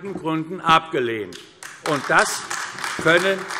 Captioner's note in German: Beifall AfD